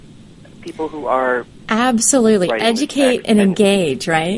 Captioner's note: affirms